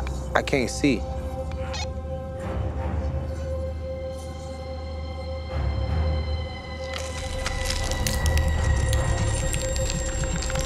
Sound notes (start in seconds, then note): 6.7 wood creaking and crackling